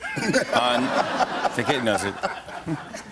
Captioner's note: laughter